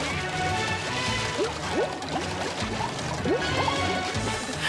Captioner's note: water bubbling